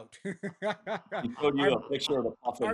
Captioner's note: laughs